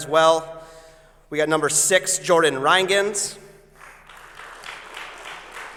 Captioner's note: applause